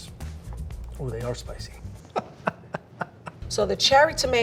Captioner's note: laughing